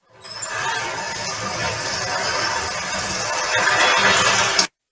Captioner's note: garage door screeching